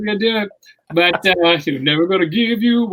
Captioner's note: murmurs